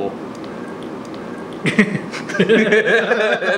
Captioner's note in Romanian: răsete